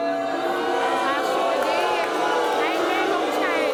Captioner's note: booing